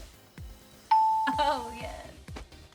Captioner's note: bell dings